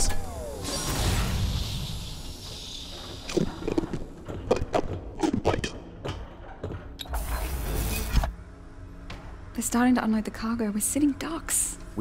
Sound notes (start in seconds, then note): 0.0 ramp opens